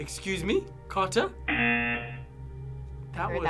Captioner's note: klaxon blares